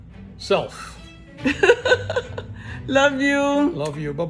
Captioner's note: laughs